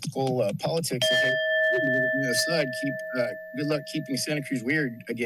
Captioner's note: bell rings